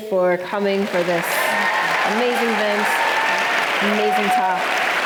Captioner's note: audience cheering